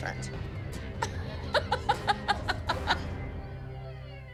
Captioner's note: laughs